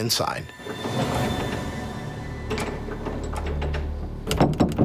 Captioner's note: door rattling